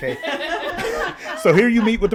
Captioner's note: all laugh